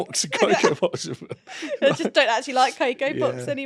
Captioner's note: laughs